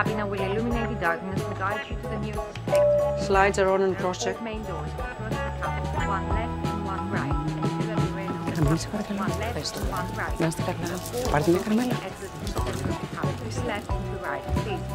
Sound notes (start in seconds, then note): 2.7 device beeps; 8.4 Vanina speaking foreign language; 10.5 passenger speaking foreign language; 11.9 Vanina speaking foreign language; 12.7 passenger speaking foreign language